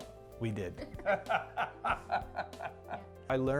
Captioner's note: both laughing